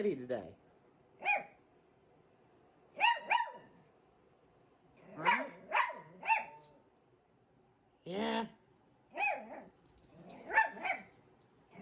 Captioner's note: Ella continues barking